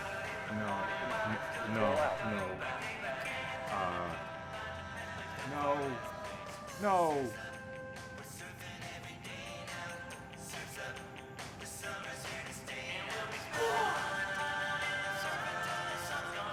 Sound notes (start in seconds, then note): 13.0 yells